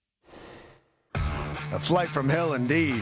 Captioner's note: rushing sound plays